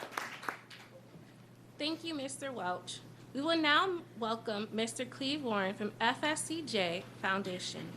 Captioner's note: applause